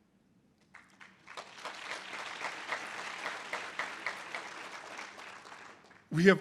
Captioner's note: audience applause